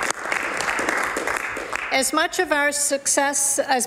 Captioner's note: some Applause